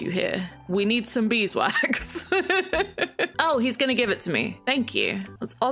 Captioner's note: laughs